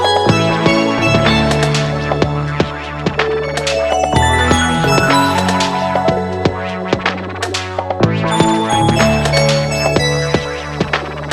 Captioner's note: crystal clear bell sounds